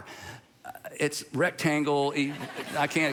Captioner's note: congregation laughing